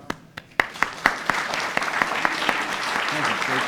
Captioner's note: audience applauds